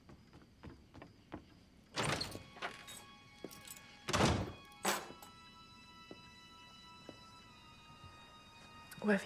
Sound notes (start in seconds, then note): 2.1 door opens; 2.2 suspenseful music; 4.1 door closes; 4.8 keys thud